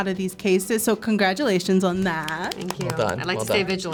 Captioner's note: claps